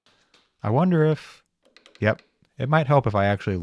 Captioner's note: piece clanking